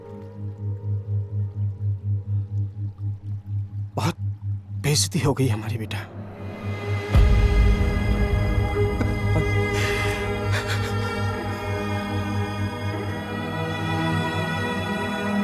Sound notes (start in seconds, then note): 8.7 Crying